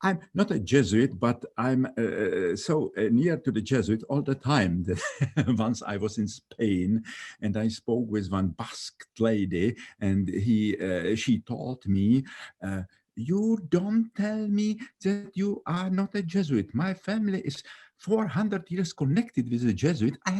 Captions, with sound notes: I'm not a Jesuit but I'm so near to the Jesuit all the time. (laughing) Once I was in Spain, and I spoke with on bus lady, and she told me, "You don't tell me that you are not a Jesuit. My family is 400 years connected with the Jesuit,